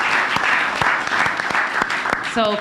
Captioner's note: applause